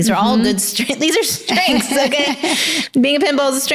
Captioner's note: laughs